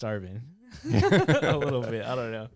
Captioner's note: laughing